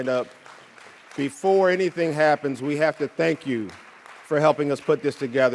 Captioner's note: audience cheering and applauding